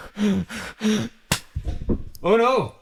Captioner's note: heavy breathing